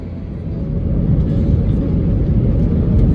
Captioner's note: engine roars for take off